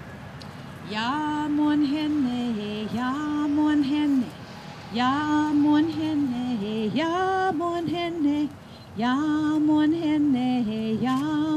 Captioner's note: foreign language